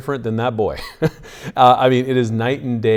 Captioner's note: laughs